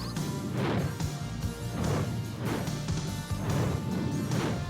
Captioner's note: flames roar